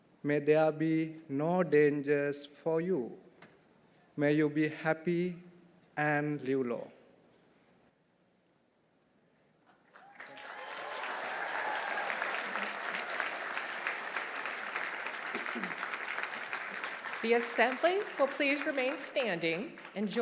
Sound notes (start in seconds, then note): 9.8 audience applauding; 9.9 audience cheering